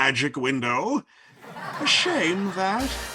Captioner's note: audience laughing